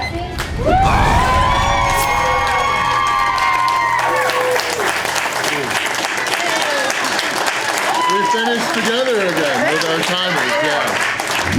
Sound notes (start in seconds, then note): 3.6 crowd cheering and applause